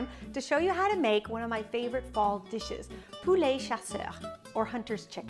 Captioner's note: speaks in French